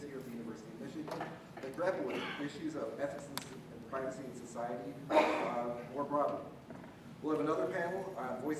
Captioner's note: cough